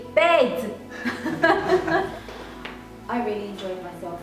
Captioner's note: laughing